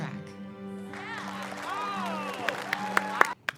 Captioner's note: students cheer; Trixie and Katya clapping; fun music